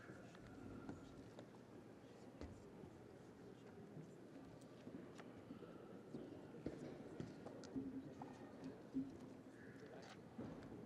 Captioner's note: people chatting indistinctly